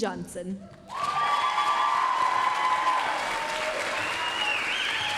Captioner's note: applause, cheering